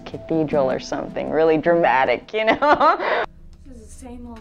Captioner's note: laughing